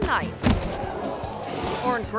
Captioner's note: thuds; crowd